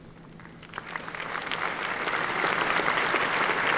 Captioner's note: applause